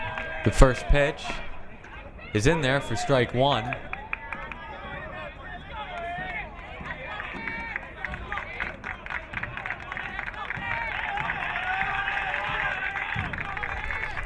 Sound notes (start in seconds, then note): 4.7 crowd cheering